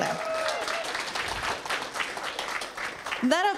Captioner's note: applause